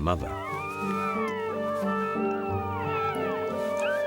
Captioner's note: pups whining